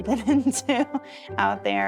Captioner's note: giggling